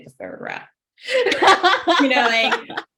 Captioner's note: laughs